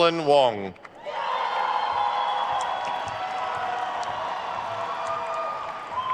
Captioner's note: attendees cheering and applauding